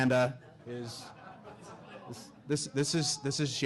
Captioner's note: audience laughing